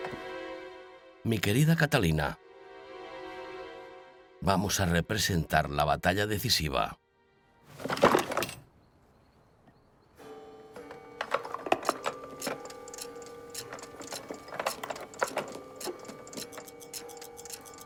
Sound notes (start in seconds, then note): 7.7 box clattering; 10.2 clock chiming; 11.2 pieces clattering; 11.7 clock ticking